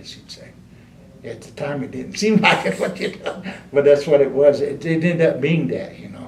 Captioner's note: laughs